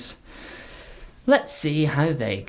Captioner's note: audible breath